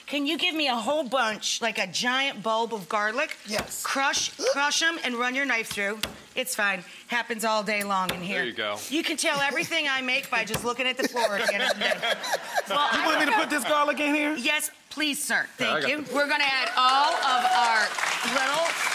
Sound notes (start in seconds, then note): 11.0 guests and audience laughing